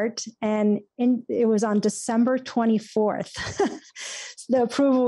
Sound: chuckles

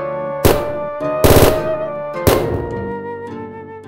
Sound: sound: gunshots!

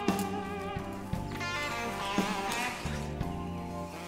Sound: birds call

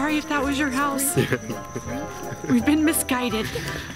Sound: laughs

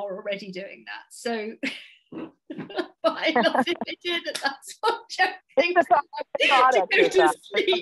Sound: laughs

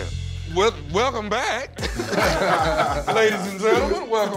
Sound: laughter

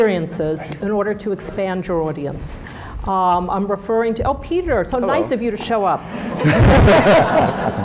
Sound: laughter

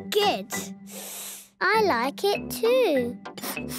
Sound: sniffs; sniffing

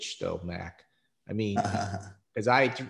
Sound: laughs

